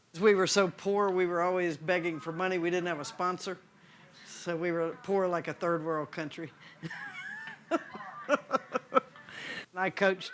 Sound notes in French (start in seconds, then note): 6.8 Rires